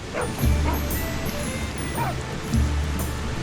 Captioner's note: dogs barking